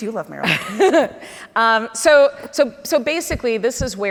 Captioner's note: laughs